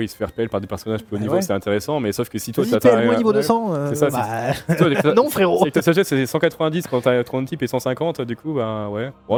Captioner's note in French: rires